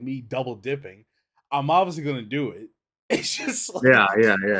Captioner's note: laughs